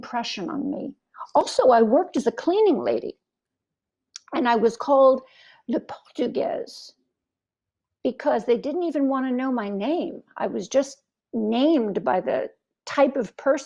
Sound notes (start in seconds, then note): 9.6 french